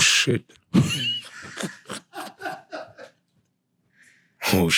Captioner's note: laughing